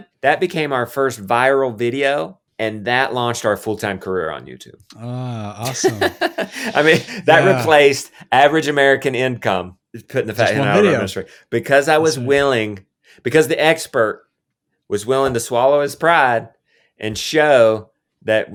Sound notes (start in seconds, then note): 5.0 laughs